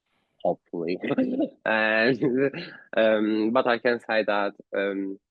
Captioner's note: laughter